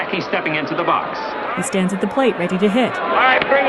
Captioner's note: mixture of booing and cheering